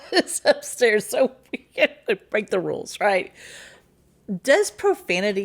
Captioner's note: laughs